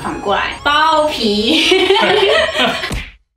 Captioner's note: Laughing